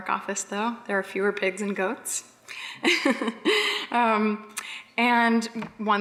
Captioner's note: laughs